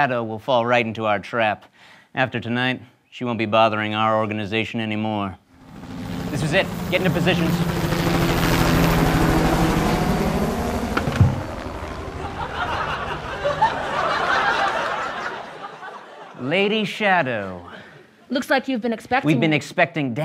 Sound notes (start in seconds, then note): 5.8 helicopter whirring